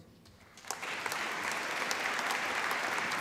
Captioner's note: applause